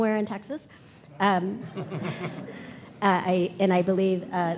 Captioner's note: audience chuckling